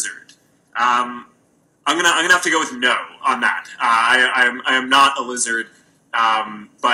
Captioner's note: stutters